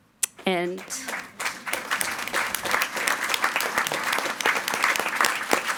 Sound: everyone applauding

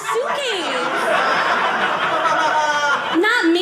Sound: audience laughing

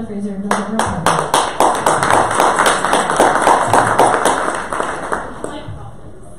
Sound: audience applause

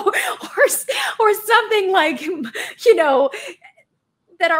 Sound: laughs

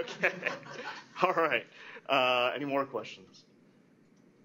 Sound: laughter

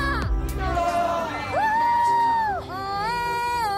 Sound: cheering

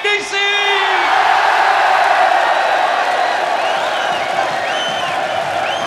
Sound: crowd cheers and whistles

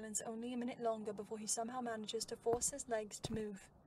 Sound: footsteps

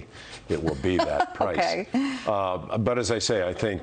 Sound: laughter

